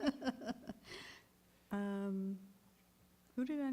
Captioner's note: laughter